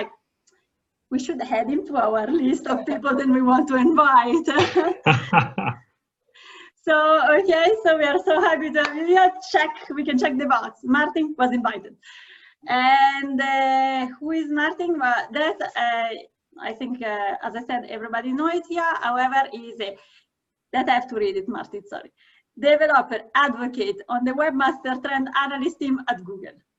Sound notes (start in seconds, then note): 4.6 laughing